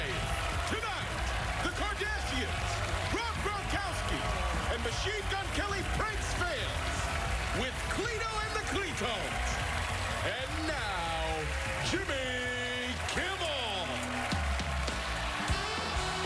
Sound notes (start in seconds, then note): 0.8 cheers and applause